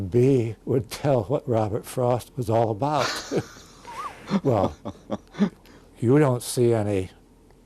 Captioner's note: both laugh